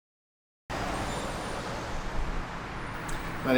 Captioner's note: traffic in background